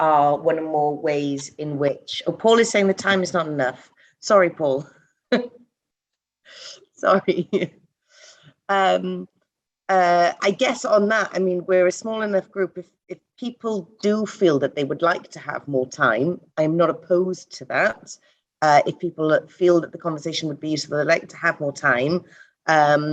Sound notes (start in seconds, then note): 7.1 laughs